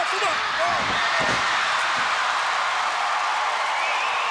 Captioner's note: crowd cheering